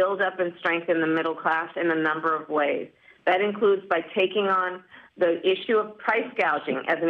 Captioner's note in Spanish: habla en ingés